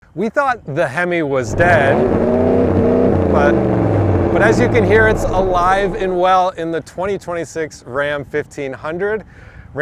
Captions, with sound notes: - We thought the Hemi was dead. (car engine roaring) But as you can hear, it's alive and well in the 2026 Ram 1500,